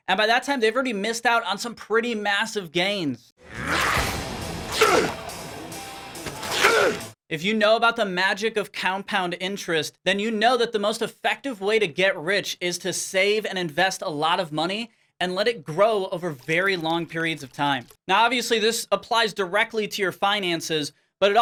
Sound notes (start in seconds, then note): 4.6 grunts angrily; 6.4 grunts angrily